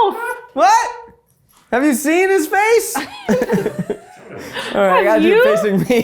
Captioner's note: laughs; chuckles